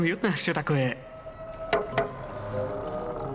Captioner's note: hollow knock